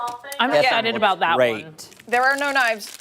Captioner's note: laughter